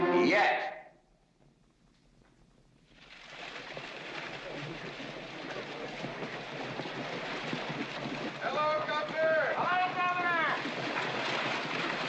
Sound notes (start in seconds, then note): 3.5 hooves trotting; 11.8 hooves trotting & carriage rattling